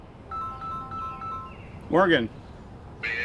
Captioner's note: phone ringing